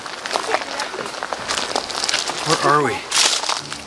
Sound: debris crunching

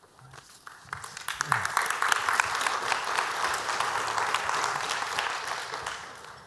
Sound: applause

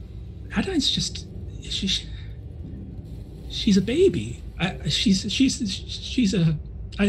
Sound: stammers

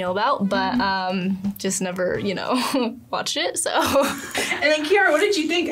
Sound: laughs

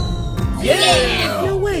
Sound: crowd

